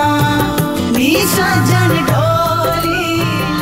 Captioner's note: Phone vibrates